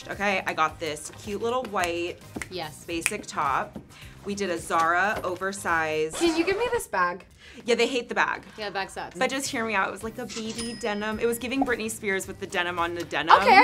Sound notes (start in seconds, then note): 2.7 snapping; 6.2 record scratching; 10.7 cash register ringing